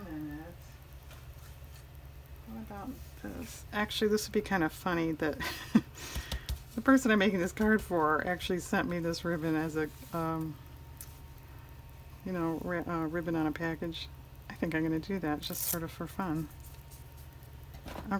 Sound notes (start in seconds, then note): 5.4 laughs